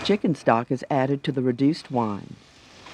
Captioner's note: voiceover